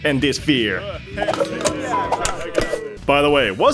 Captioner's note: Publiken buar på svenska